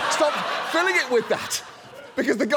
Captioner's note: studio audience laughs